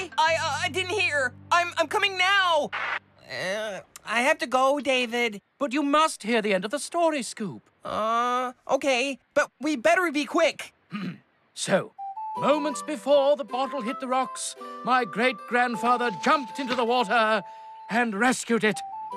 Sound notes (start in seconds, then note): 2.6 walkie-Talkie Crackles; 10.9 clears Throat